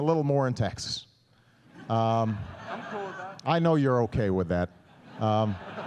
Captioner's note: laughter